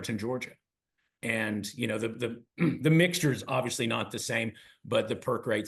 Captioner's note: cough